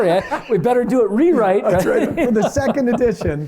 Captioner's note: laughter